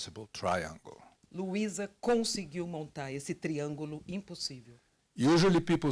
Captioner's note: translator speaking Portuguese